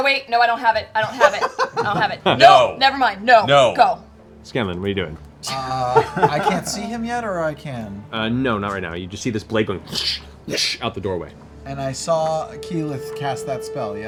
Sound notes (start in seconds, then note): 10.0 whoosh whoosh